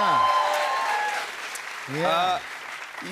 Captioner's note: cheers and applause